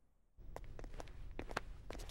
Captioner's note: Footsteps